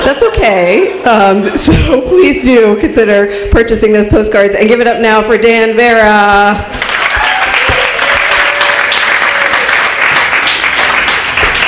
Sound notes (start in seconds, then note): 6.7 applause